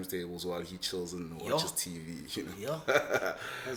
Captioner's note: laughs